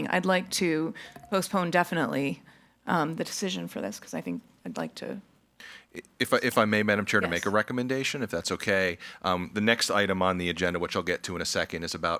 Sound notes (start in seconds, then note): none